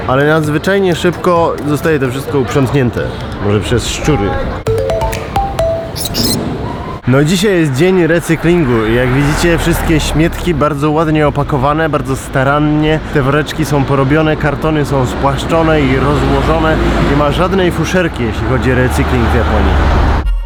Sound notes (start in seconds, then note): 4.6 upbeat music; 6.0 a rat's squeal